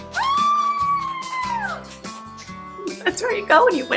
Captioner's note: cheering